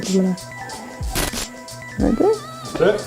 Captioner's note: static sound